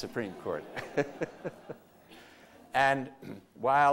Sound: laughter

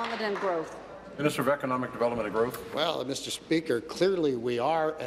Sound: applause

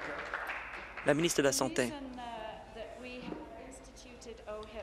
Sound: applause

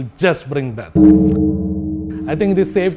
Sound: bell tolls ominously

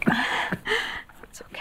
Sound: Curley coughs

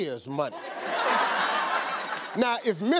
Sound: audience laughing

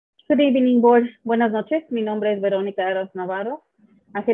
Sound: speaks Spanish

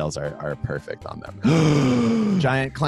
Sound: gasps

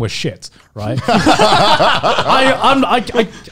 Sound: laugh

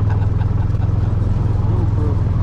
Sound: laughing

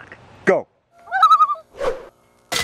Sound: loon call

